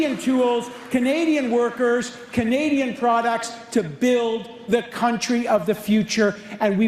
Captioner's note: applause